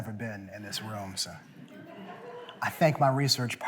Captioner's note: laughter